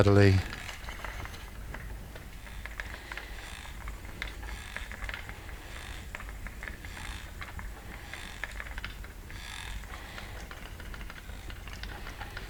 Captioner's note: breathing